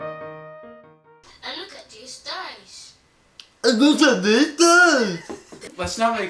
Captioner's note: mockingly